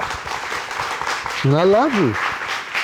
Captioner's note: audience applauding